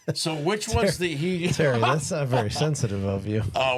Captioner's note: laughs